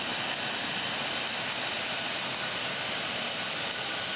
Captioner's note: plane engine roaring